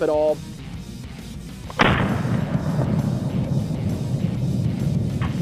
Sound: gun firing in slow motion

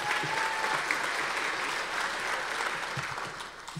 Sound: audience applause

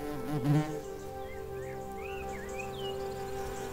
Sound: bee buzzes

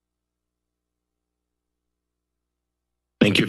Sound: moment of silence

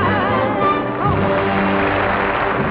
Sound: audience applause

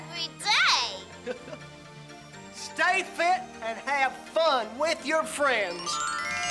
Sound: laughing

